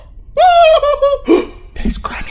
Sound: brandon screams; gasp

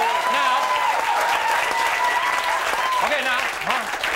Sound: audience cheering

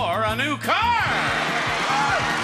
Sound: upbeat music; audience clapping

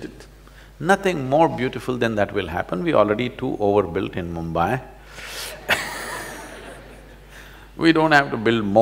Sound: laughs

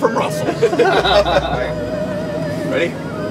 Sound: laughter

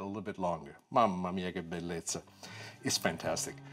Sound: foreign language

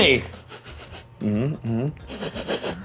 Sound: sniffs

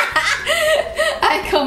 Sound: chuckles

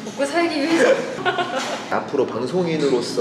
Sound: both laughing

